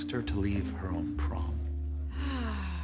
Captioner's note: sighing